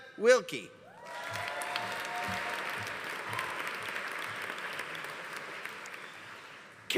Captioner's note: audience cheering; audience applauding